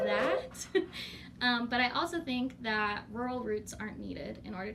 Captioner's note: laughs